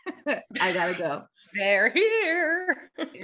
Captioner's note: laughs